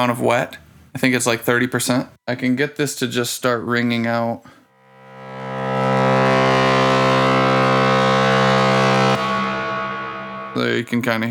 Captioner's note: resonant tone